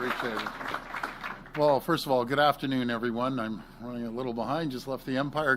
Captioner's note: applause